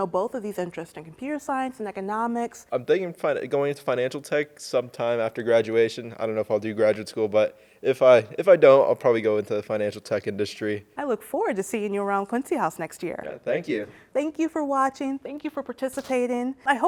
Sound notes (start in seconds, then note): none